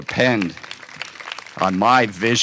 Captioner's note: applause